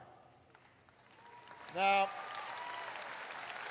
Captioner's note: applause